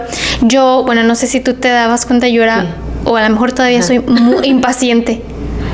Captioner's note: laughs